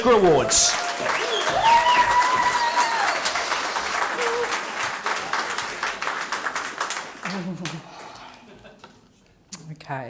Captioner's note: cheering and applause